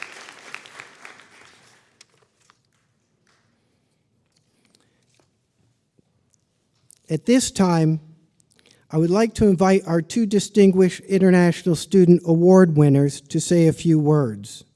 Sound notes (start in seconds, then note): 2.2 applause